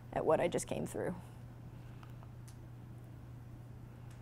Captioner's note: none